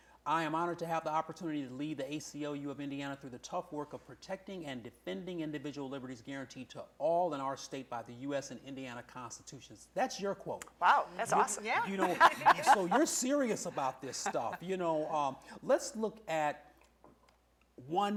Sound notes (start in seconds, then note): 11.7 laughter